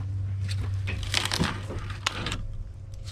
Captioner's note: crunch